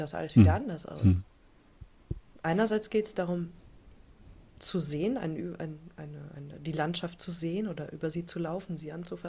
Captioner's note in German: räuspern